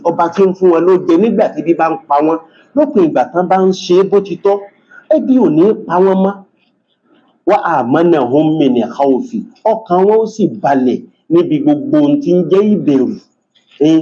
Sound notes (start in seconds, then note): 7.3 reciting arabic